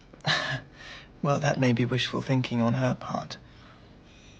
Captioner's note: laughing